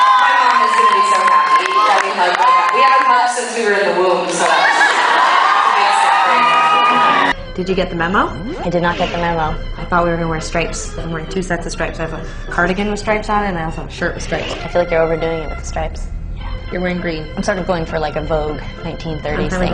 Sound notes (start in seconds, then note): 16.1 whispering